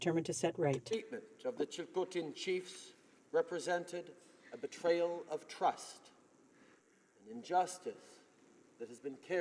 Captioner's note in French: voix de l'interprte